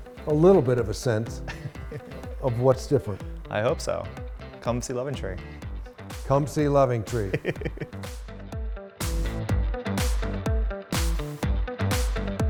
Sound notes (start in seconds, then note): 7.1 chuckles; 9.3 upbeat music